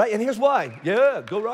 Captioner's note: congregation cheering